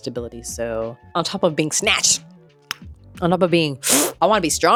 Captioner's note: sucks in